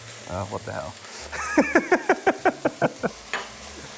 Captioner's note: laughs